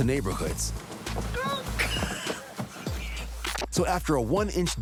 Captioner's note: laughs